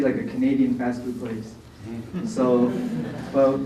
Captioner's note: background laughter